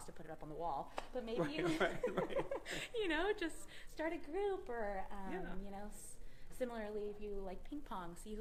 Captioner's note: laughter